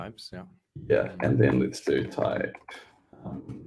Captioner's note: murmurs